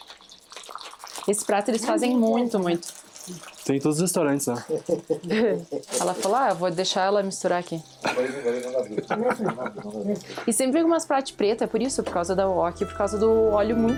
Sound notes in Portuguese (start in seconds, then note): 4.9 limpando a garganta